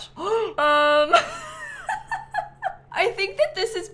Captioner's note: gasps